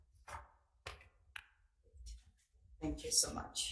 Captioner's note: papers flipping